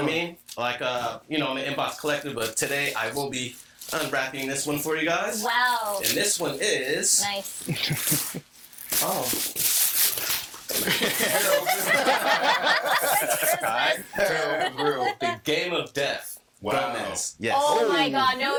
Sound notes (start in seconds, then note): 6.9 infernal laughing; 8.5 paper rustling; 10.8 all laughing